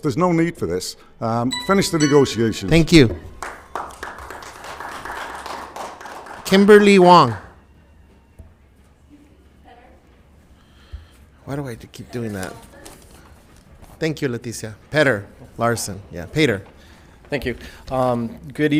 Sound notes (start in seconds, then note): 1.5 timer chimes; 3.3 applause